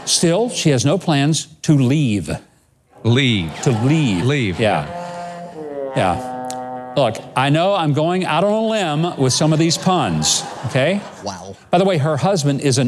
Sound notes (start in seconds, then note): 5.5 honk; 8.7 laughs